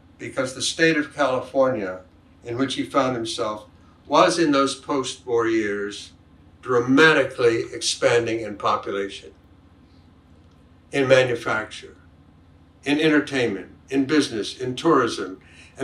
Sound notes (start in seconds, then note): none